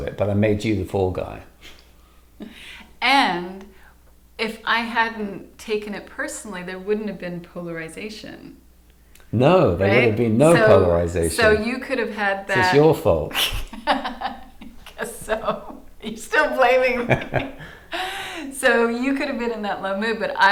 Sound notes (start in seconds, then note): 13.2 laughing